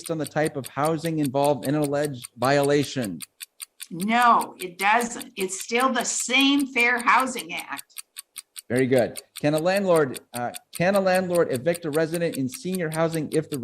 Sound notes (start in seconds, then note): 8.4 clock ticking